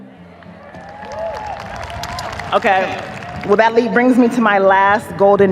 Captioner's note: audience cheers, applauds